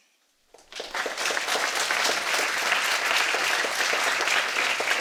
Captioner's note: audience applauding